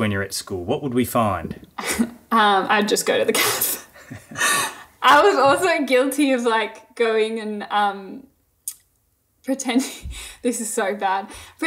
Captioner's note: laughing